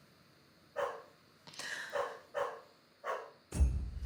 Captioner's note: dog barking in distance; gasps; rhythmic drum music